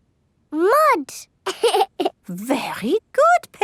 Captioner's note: laughs